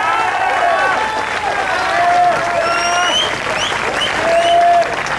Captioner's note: audience applauds